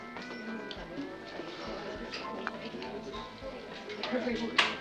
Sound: people chatting

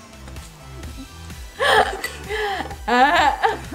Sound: laughing

